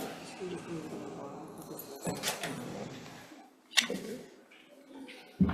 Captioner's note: indistinct conversation